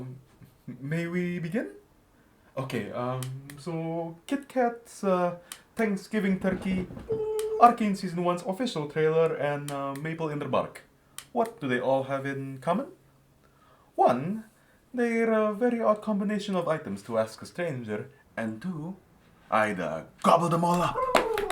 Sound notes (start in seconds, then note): 6.3 waddling footsteps & gobbles